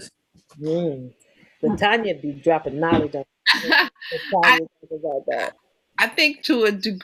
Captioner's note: laughs